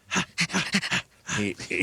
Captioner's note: laughing